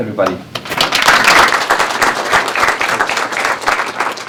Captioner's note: applause